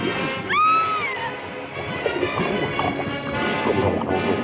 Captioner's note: screaming